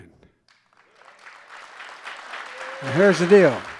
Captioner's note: applause